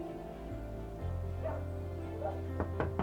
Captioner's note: dog barking; knocking on door